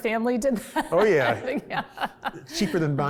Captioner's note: laughs